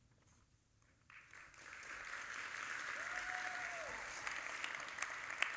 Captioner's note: audience applauding